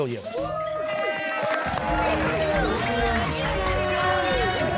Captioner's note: cheers and applause